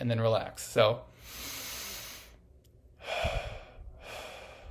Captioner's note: exhales; inhales